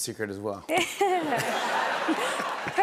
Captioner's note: laughter